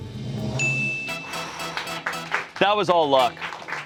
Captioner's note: bell dings